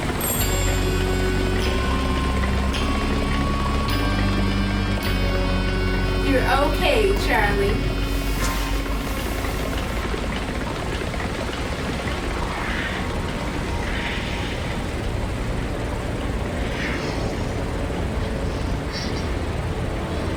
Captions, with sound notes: [sinister music plays] You're okay, Charlie. [Raspy Voice] I breathe. [Raspy Voice] You breathe.